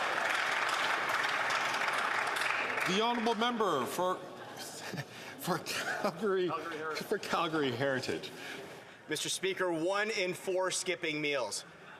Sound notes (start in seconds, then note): 3.6 some Applause